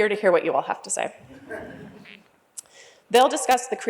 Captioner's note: laughter